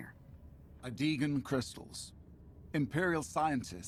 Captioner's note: none